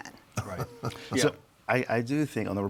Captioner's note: chuckling